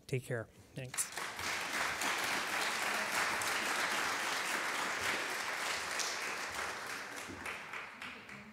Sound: audience clapping

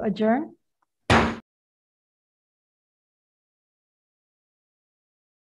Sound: gavel pounding

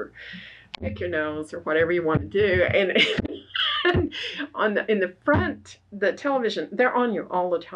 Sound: laughs

